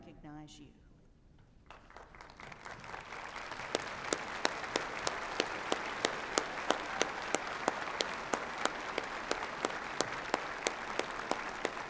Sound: applause

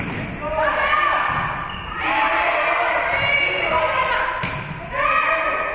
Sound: spectators shouting encouragements

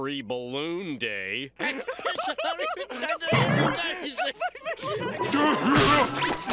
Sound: laughing

